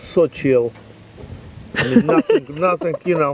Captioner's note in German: Lachen